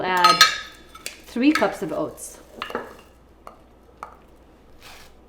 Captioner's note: jar clanking